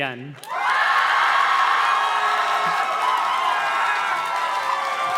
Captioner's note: audience cheers and claps